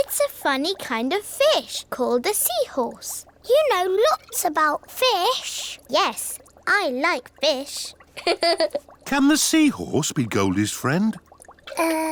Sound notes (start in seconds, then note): 8.2 laughs